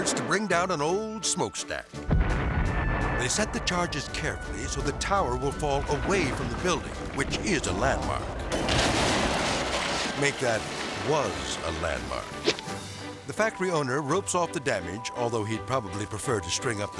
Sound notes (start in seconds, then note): 2.3 explosives booming; 8.7 tower crashing; 12.6 air swoosh